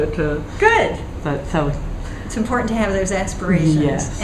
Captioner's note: laughing